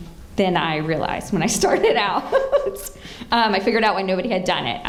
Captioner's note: laughs